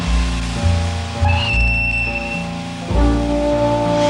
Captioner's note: train whistle blowing